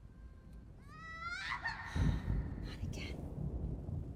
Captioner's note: patient screams